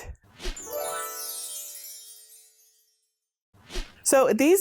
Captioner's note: stars twinkling; air whooshing